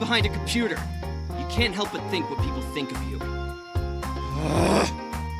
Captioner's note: scoff